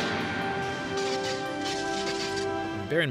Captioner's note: time travel crackling noises